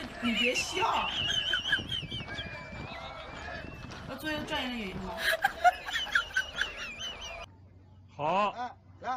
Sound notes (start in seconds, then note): 2.1 laugher